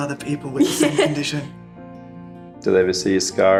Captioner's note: laughs